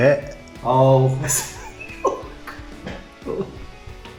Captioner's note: laughs